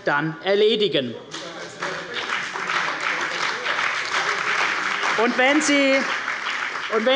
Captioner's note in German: Beifall bei der CDU und dem BÜNDNIS 90/DIE GRÜNEN